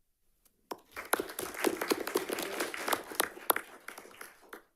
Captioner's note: audience applauding